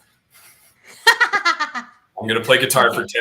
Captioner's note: laughter